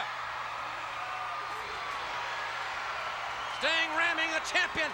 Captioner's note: crowd cheers